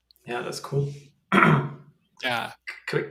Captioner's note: clears throat